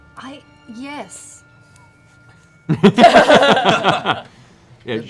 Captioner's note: laughter